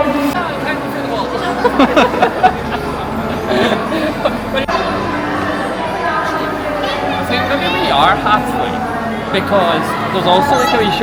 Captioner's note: laughs and muffled talking